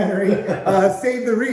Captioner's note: laughing